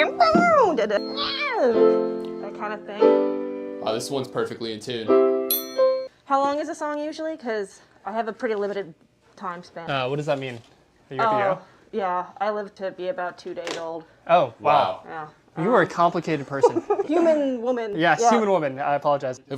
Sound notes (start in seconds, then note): 5.5 ting!